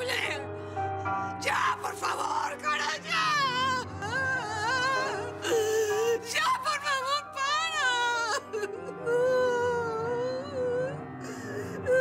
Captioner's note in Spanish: sollozos